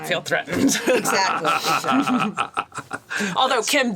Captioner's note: laughs